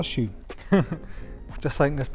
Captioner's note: laughs